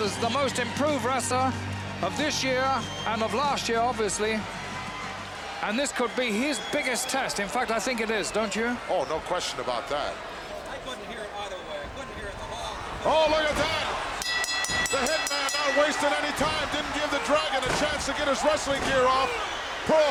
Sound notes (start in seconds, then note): 14.0 bell ringing